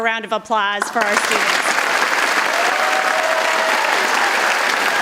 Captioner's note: audience applauds